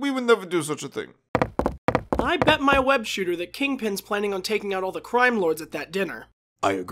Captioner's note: footsteps